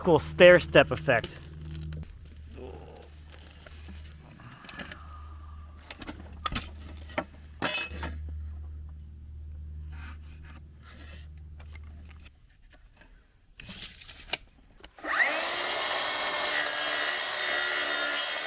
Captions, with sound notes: Look at this cool stair-step effect. (tools clattering) (pencil scraping) (saw buzzing)